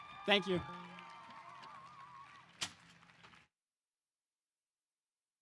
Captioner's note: audience applause